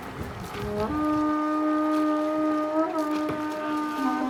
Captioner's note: horn sounds